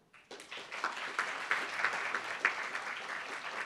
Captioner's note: applauds